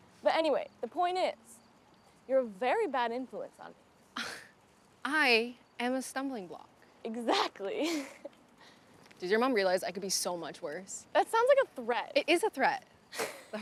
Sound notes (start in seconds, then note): 5.1 scoffs